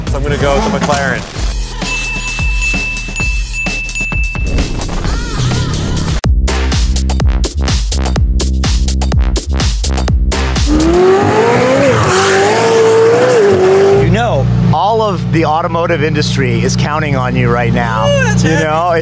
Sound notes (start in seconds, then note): 1.4 electronica Music Plays; 1.7 bells Chiming; 10.4 engine Revving